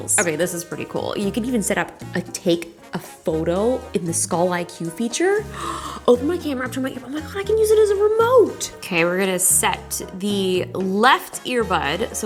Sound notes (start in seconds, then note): 5.5 gasps